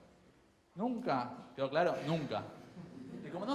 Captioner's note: crowd chuckles